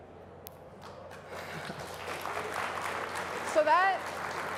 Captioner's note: applause